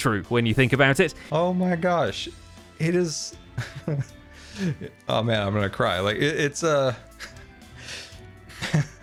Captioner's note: wistful laugh